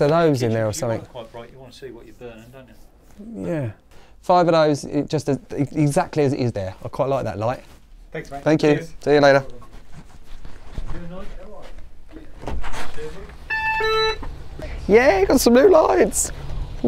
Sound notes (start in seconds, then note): 13.4 door beeps